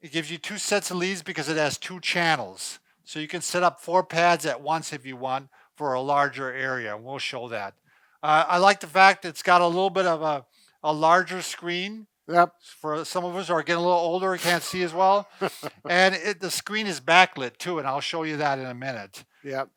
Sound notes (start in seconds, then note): 14.4 laughs